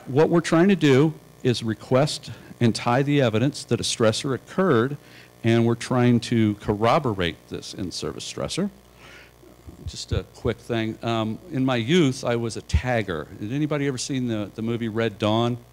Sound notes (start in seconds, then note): none